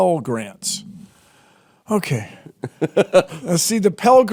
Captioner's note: Jordan laughs